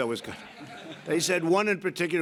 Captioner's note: laughter